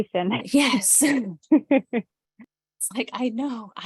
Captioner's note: chuckles